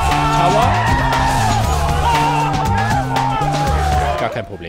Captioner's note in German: Jubel